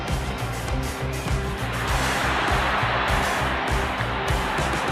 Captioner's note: crowd roars